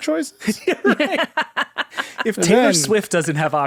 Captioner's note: laughing